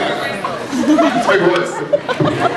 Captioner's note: scattered laughs